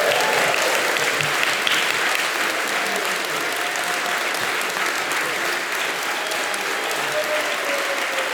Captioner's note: applause